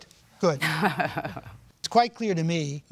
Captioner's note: chuckles